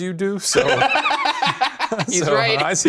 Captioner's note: laughs